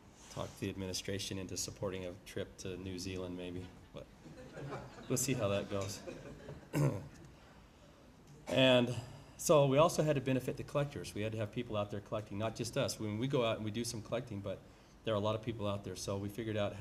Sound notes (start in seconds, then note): 4.2 laughter